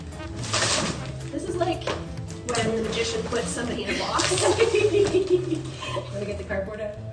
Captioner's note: laughter